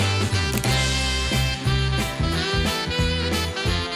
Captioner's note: camera snapping